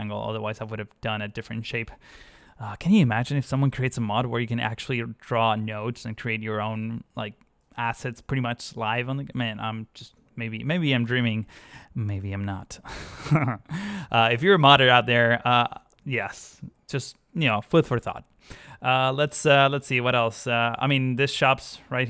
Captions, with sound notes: otherwise I would have done a different shape oh can you imagine if someone creates a mod where you can actually draw nodes and create your own like assets pretty much live I'm just man maybe maybe I am dreaming maybe I am not [laughs] if you are a modder out there yeah just you know food for thought let's see, let's see what else I mean these shops right here